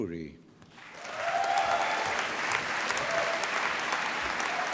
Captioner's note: applause